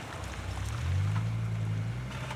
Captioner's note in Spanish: sonido del motor